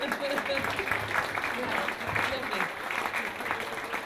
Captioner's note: applause